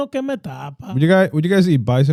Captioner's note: speaking Foreign Language